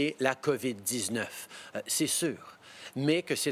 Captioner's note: speaking French